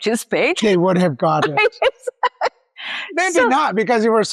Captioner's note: laughs